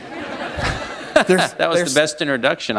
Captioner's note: laughter